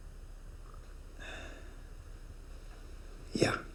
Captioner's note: Jack sighs